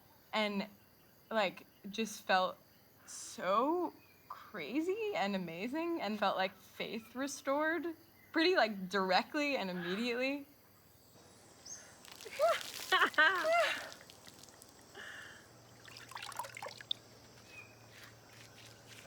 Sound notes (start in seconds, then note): 12.2 screaming; 12.3 laughing